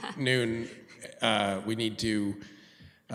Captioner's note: laughs